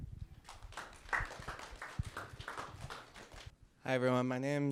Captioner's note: audience clapping